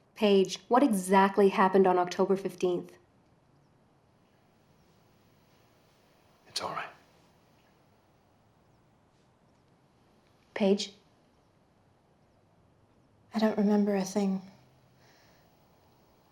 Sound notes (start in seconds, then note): none